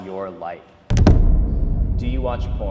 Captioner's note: intense boom